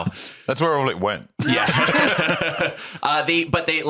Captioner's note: laughs